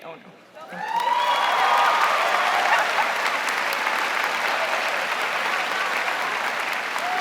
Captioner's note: audience applauding